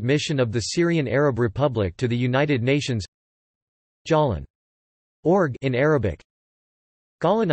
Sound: in Arabic

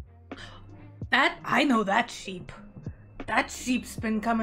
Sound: gasp

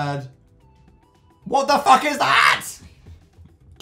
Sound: screaming; screamy

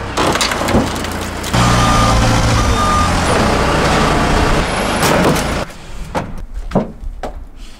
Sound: sound of forklift moving and back up beepers

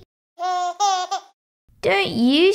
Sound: baby noises

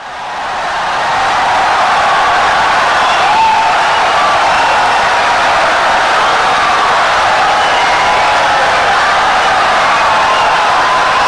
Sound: wild applause and cheering for 17 seconds

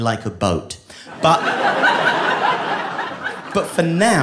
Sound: audience laughing

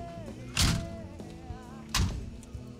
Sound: door slam

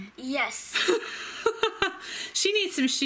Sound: laughs

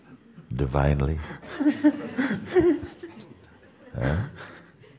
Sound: emotional laughter in sangha

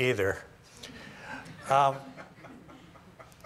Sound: laughter

